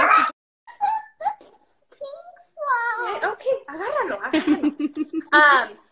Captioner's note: foreign language